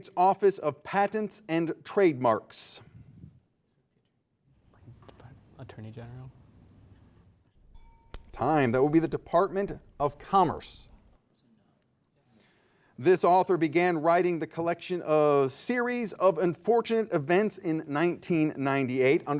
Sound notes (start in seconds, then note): 7.7 timer pinging